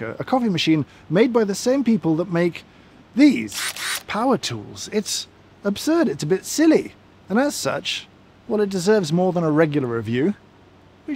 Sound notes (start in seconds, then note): 3.5 motor whirls